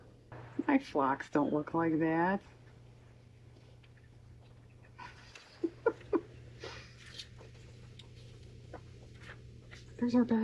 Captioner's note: laughs